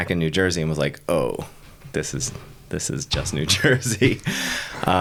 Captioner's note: laughing